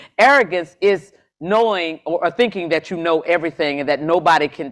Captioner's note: none